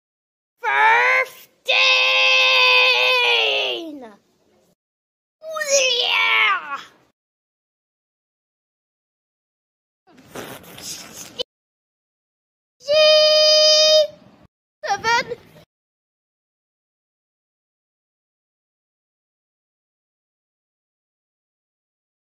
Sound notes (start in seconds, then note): 1.6 13 Screaming; 5.4 6 Screaming; 10.1 fart